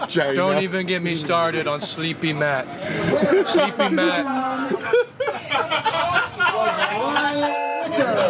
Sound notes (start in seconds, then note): 4.5 laugh histarically